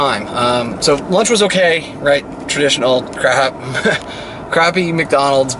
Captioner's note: laughs